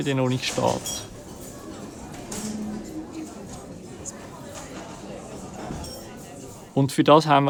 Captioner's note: clapping cutlery and voices in a cafeteria